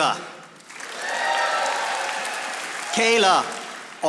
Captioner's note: audience applauding